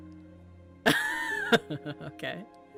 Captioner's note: laughs